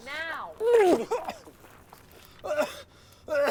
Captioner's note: vomits, coughs